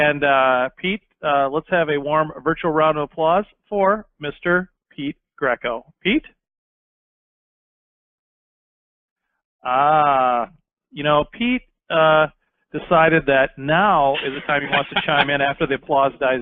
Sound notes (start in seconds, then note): 8.1 silence